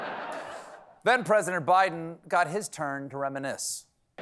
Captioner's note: cheers and applause; laughter